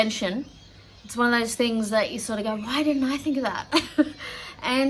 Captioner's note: laughs